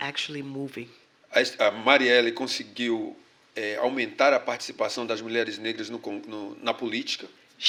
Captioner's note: speaking portuguese